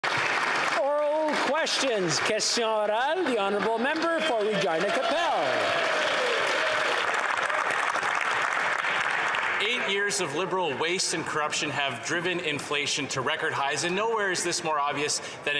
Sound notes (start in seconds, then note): 0.0 some Applause